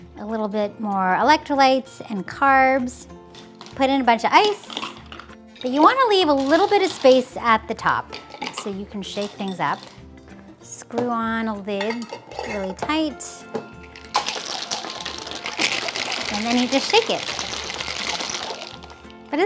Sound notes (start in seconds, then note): 13.4 shaking jars